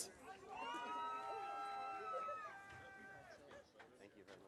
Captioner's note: audience cheering